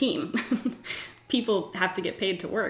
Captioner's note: giggles